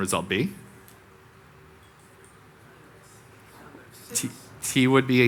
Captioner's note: audience members speaking indistinctly